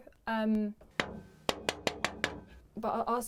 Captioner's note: man knocking